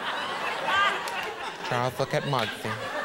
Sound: audience laughing

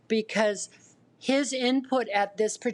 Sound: none

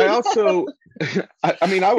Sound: laughter

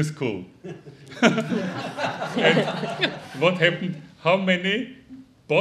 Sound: audience laughing

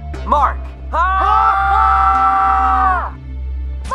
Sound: all screaming

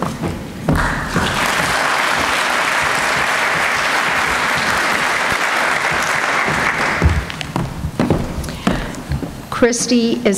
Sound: applause

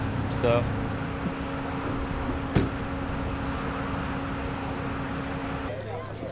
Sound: machinery whirring; car door slams; people chattering

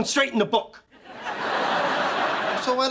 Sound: laughs

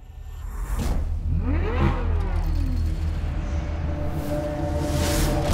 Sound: engine revving

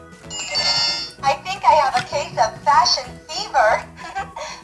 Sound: laughs

